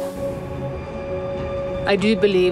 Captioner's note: train rumbles